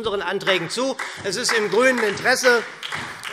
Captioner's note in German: Beifall SPD